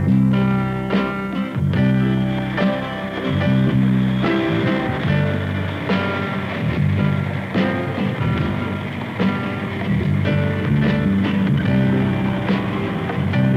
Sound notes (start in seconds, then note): 1.9 jet engine whines